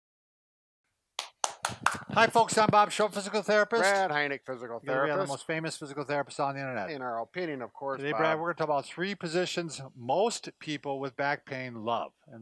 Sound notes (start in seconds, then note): 1.1 claps hands